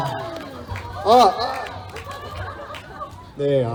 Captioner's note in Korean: 웃음